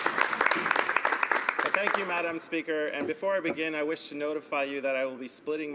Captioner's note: applause